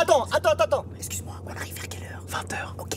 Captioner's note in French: chuchotements